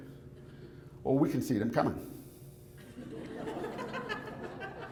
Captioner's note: audience laughs